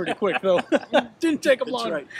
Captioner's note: both laugh